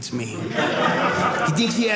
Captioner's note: audience laughing